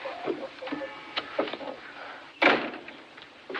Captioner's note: car Door Shuts